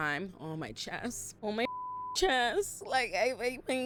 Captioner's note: beep